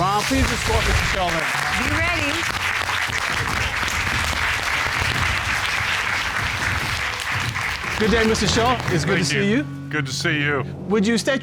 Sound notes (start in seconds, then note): 3.6 applause